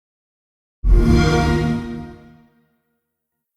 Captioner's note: xbox sound